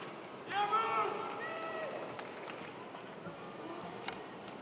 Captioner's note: cheers and applause